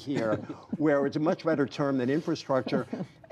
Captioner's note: laughter